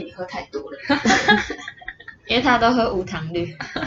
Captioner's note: laughter